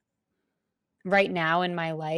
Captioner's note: none